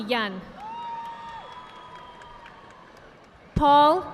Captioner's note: audience applauding